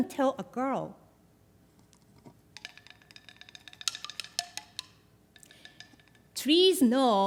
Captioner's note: wooden chimes